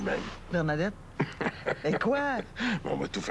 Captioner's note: Rire